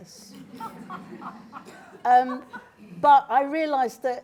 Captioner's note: laughter